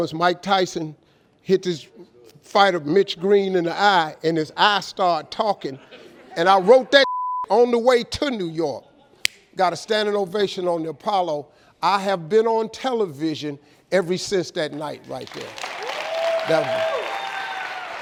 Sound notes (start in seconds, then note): 7.0 beep; 15.1 clapping